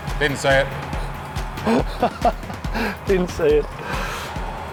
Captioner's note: laughs